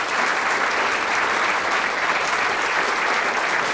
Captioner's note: applause